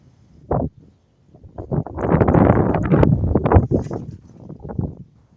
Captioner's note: wind noises